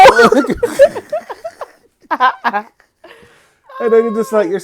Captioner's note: laughing